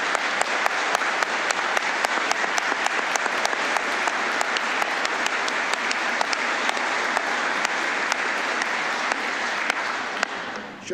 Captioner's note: applause